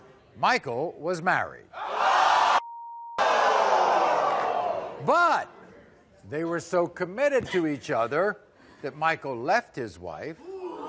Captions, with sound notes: Michael was married. (audience shouts) But, they were so committed to each other that Michael left his wife,